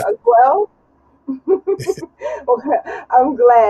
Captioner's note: chuckles